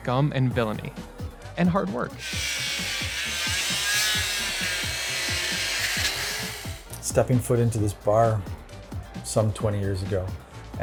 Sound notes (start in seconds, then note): 2.2 saw blade humming; 2.2 upbeat music